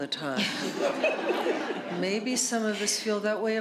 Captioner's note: laughter